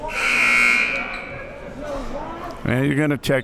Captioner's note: siren blaring